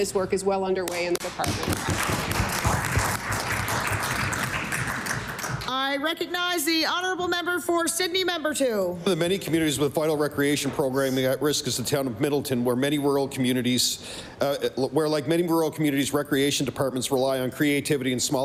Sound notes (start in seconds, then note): 6.3 applause